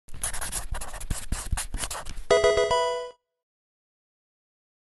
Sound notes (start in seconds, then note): 0.1 pen writing; 2.3 electronic tune